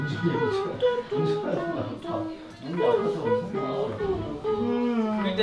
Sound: our squirrel being good at making trumpet sounds

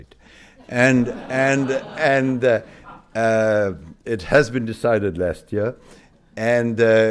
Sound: laughter

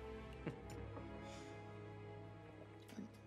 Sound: laughs

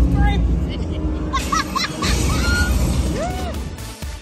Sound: vacationer 2 laughs

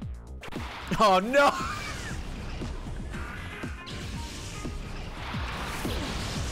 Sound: laughs

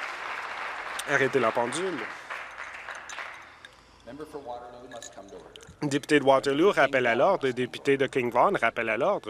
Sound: applause

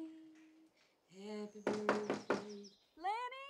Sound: Knocking

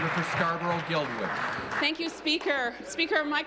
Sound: applause

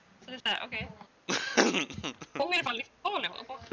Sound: laughing

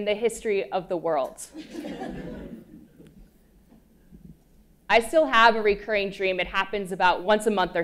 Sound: laugh

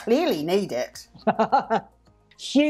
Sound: laughs

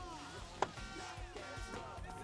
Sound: horns honking

